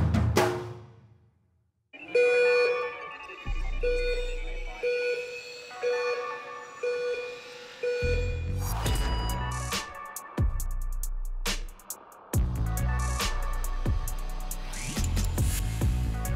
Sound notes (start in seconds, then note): 6.0 beep!; 9.0 funky music